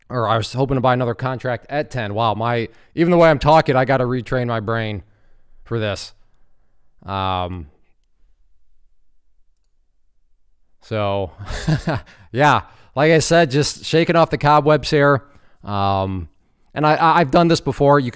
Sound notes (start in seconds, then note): 11.3 chuckles